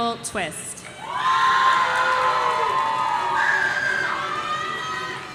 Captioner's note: audience cheering